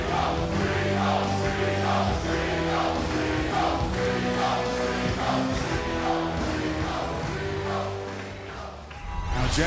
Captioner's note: fans chanting